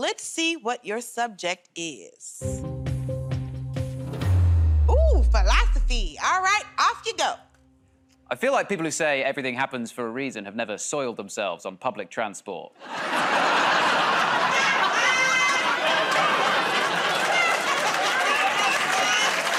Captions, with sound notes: So let's see what your subject is. Ooh, philosophy. All right. Off you go. -I feel like people who say everything happens for a reason have never soiled themselves on public transport. [ Laughter ]